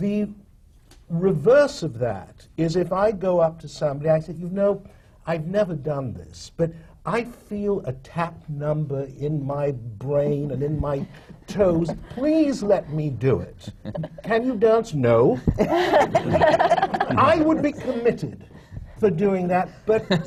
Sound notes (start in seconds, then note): 13.5 laughter